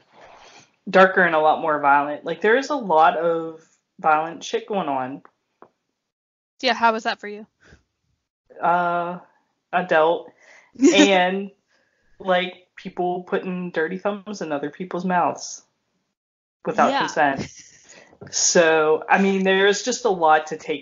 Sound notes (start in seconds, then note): 10.8 laughs